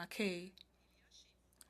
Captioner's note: speaking French